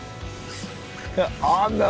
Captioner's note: rod screeches